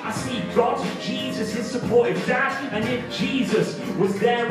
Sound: none

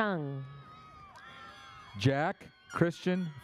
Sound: audience cheers

